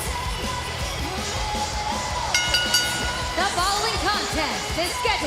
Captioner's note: bell ringing